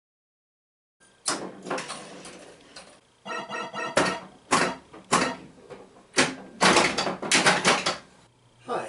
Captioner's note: pinball noises